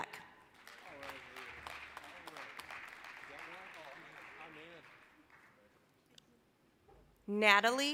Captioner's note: applause